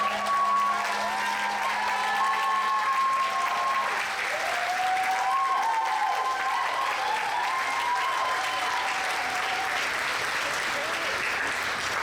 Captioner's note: applause